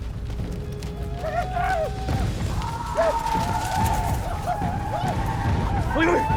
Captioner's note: shawnee war cries